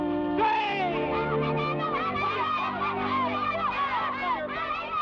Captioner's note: boys shout